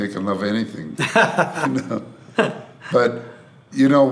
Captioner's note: laughs